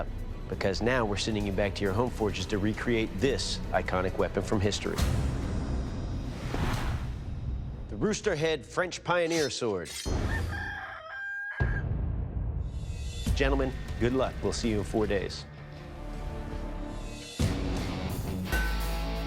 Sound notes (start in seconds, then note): 10.2 rooster crowing